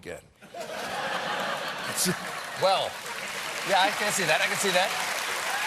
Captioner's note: laughter